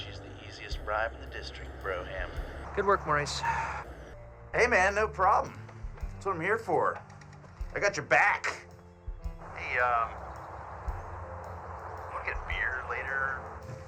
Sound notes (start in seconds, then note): none